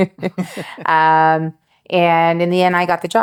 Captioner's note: laughs